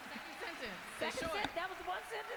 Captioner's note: cheers and applause